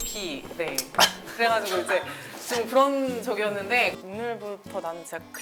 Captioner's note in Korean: 콜록